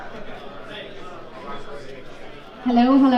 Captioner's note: crowd chatting